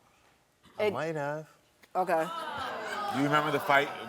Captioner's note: audience reacting